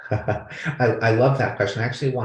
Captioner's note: laughing